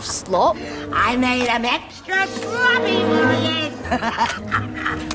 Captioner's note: laughs